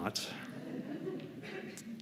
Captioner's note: laughter